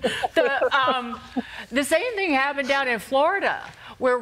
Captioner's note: laughter